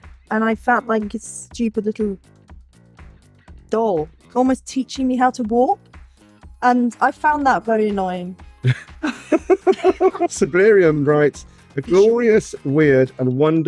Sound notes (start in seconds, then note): 8.6 group laugs; 8.6 laughs